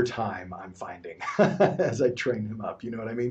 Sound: chuckles

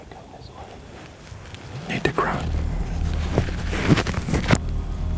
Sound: whispering

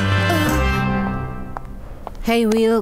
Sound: Wilk moans

